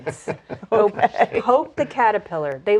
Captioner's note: laughing